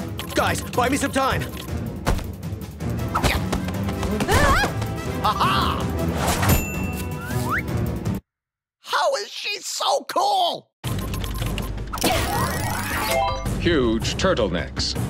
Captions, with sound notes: Guys, buy me some time. -Ah! -A-ha! [dings] How is she so cool? Huge turtlenecks.